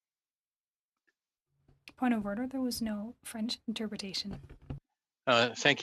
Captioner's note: speaking french